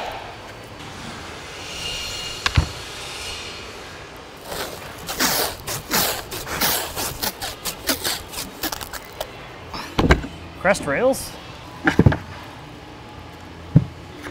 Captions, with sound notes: (distant grinding, tape unwinding) Crest rails. (wood clattering)